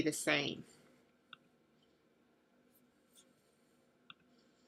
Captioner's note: long pause